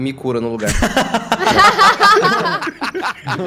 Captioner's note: laughter